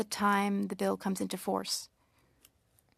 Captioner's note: speaking French